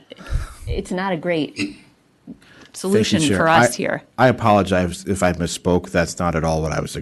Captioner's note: clears throat